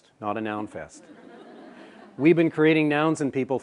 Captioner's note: laughter